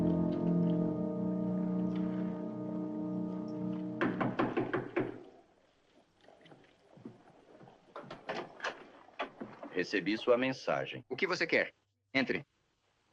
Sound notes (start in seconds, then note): 4.0 knocking on door